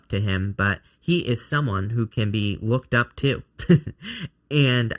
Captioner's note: chuckles